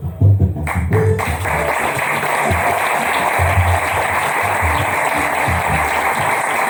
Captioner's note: applause